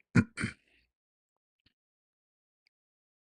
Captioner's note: berdehem